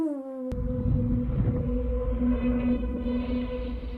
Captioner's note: wind whistles